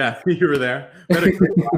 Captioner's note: laughing